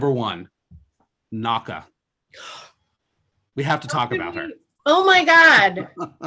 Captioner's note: gasps